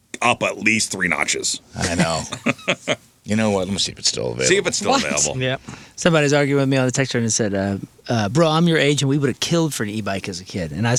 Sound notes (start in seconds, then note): 1.8 laughter